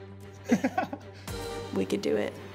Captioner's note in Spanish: ríendo